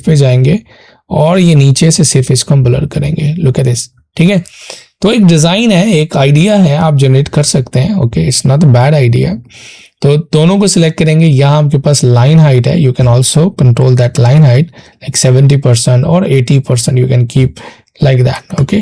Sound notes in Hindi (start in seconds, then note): 4.1 नाक से की जाने वाली आवाज़